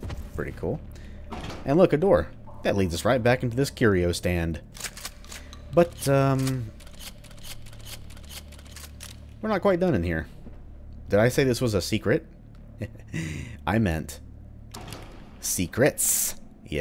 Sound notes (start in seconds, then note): 12.8 chuckles